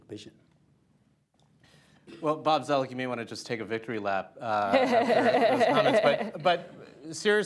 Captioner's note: laughter